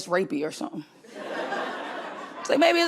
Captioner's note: crowd laughs